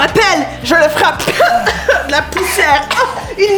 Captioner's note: Lys coughs